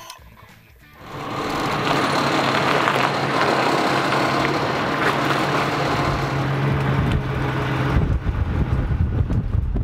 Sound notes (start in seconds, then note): 0.9 pick-up engine roaring